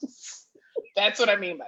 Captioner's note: laughs